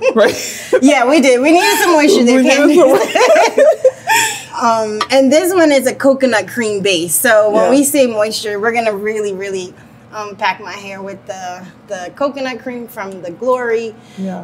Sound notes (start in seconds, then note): 1.4 both laugh